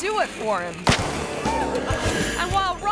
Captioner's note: explosion bangs